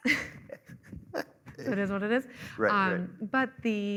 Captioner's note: chuckling